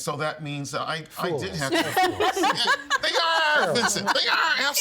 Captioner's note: all laughing